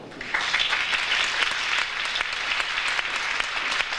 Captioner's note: audience applauds